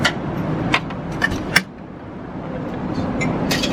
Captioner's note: none